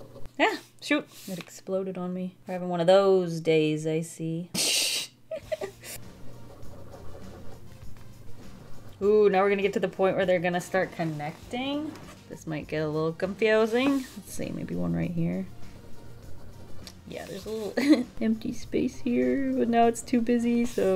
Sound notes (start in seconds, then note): 5.2 giggles